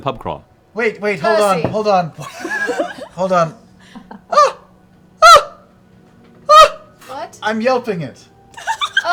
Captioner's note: high-pitched cries